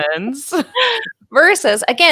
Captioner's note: both laughing gently